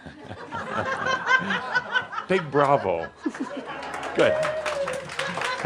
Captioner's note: laughter; some applause